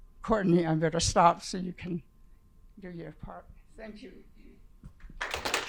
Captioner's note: audience clapping